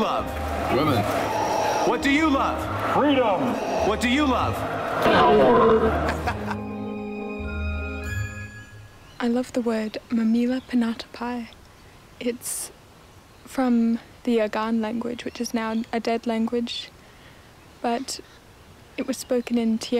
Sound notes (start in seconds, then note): 4.5 laughs